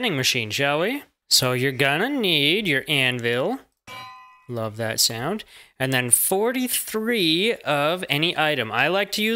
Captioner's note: ding